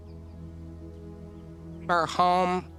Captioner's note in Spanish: trino de pájaros